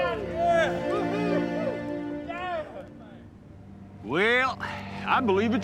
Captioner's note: cheering